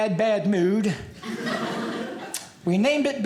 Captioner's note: audience laughing